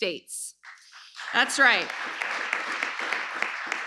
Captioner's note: applause